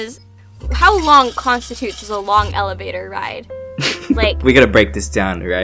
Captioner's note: snickers